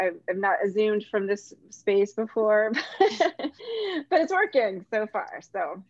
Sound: laughs

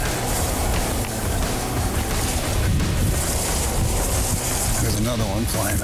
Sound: grass rustling; rock music

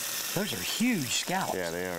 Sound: pan sizzles

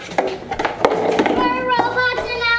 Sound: clattering on the ground

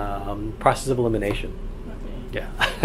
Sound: laughs

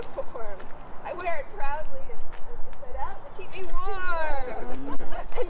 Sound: laughter

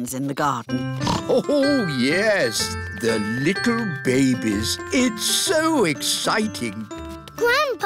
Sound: snorts

